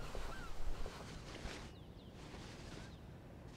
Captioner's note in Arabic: صوت حفيف القماش